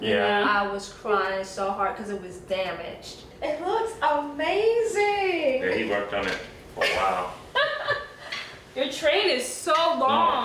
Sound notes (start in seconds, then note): 4.6 pops; 7.5 laughing